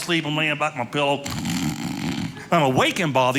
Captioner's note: snoring